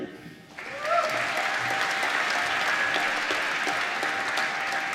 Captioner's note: applause